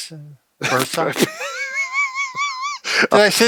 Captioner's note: laughs